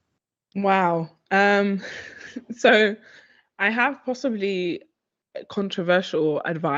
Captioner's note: chuckles